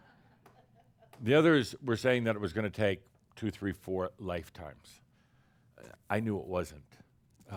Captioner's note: laughter